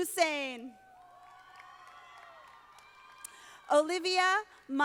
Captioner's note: audience applauding